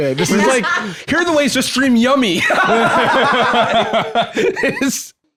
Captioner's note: both laughing